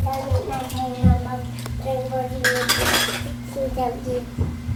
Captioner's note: children playing